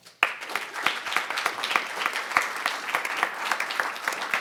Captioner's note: audience applauding